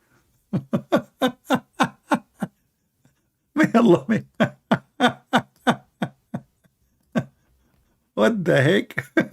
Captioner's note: Ketawa